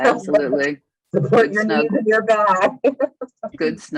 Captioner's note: laughing